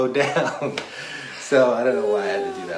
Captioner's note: laughs